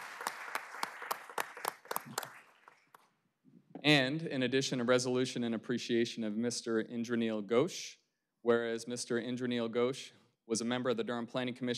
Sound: applause

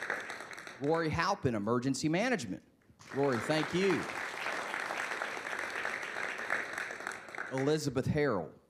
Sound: applause

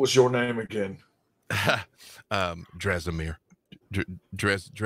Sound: laughs

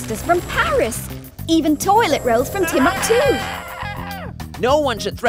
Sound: screaming

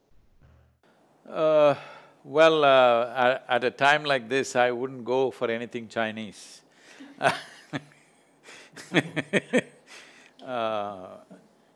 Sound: laughs

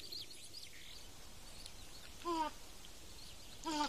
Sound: lemur grunting

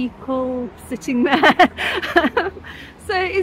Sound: laughing

